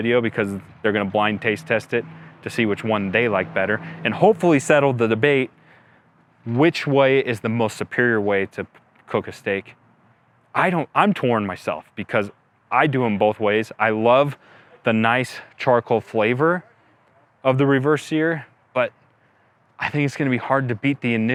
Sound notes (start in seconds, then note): none